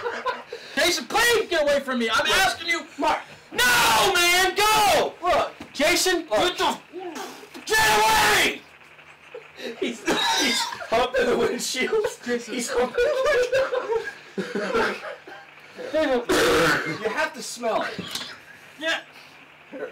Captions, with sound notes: Jason please get away from me! I'm asking you...noooo man! no! look..Jason! get away! (laughing) (coughing) (gagging) he up against the windsheilds (laughing) You have to smell (coughing)